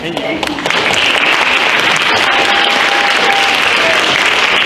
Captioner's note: audience applauds